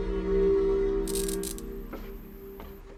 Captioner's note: light buzzing; footsteps tapping